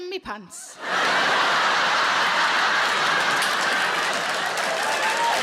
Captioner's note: audience laughs